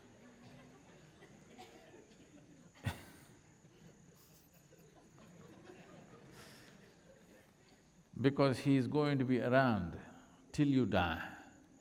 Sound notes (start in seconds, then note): 3.2 Sadhguru laughs